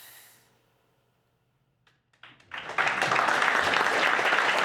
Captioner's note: audience applauds